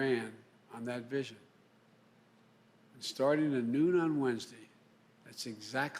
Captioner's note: A pause